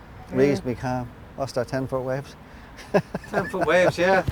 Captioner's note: laughs